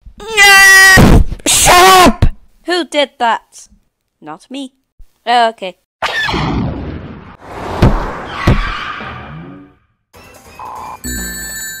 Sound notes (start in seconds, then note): 5.7 TIE Fighter Blast!; 10.0 epik music; 10.5 skid!